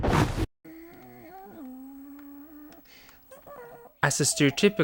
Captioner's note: making car noises